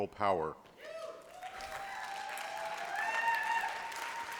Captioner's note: applause